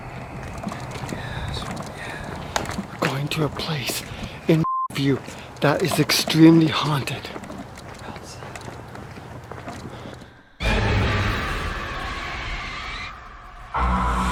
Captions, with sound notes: (gear clattering) - Yes, yes! - Going to a place in (beeping) that is extremely haunted. - [Disembodied Voice] I'll say. (eerie suspenseful music)